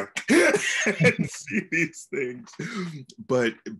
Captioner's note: laughs